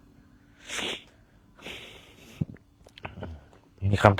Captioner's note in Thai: เสียงสูดหายใจ